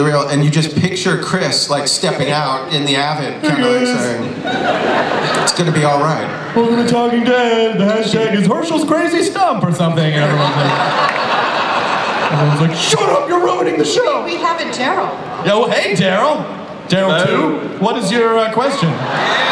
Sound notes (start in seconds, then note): 10.1 audience laughs